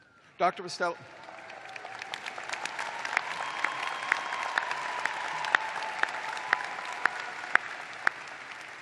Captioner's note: cheers and applause